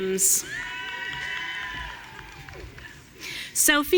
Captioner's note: audience cheering